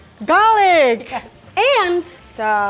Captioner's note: laughing